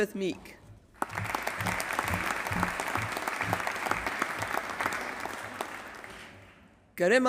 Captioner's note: applause